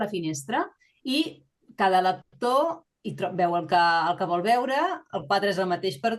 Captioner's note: continues speaking in Catalan